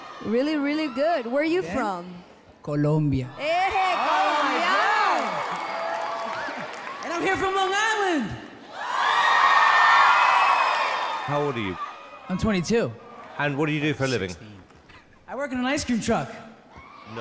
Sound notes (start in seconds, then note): 4.7 audience clapping; 8.9 audience clapping and cheering